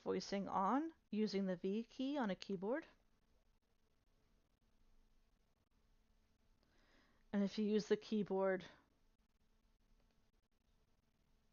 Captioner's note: self voicing plays